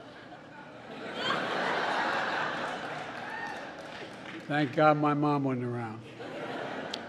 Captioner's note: laughter; laughter